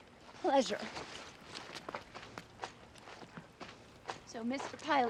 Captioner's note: footstep